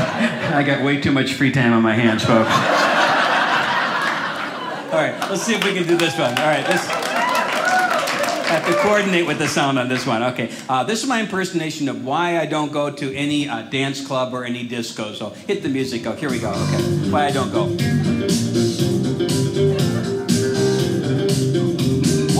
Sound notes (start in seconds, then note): 2.2 audience laughing; 6.2 audience cheers; 16.2 disco music